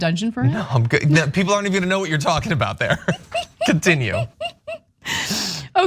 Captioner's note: laugh